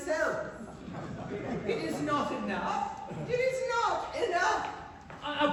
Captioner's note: laughter